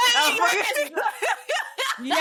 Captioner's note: laughs